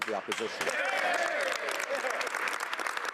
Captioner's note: speaking French